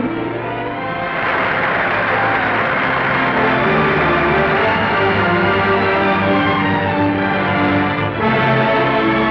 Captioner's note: sentimental music; audience applause; dramatic orchestral music